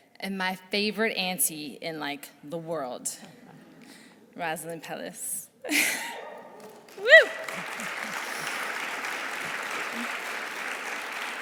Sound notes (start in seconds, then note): 6.4 audience applauding; 7.1 chuckles